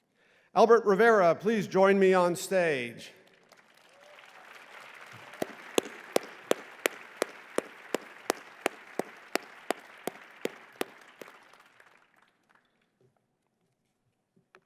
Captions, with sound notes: Albert Rivera, please join me on stage. [ Applause ]